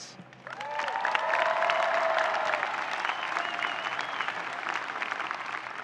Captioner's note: audience cheering and applauding